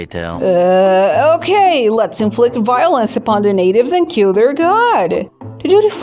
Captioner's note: groans